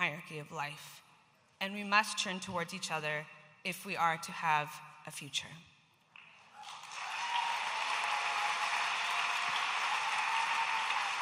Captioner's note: audience applauding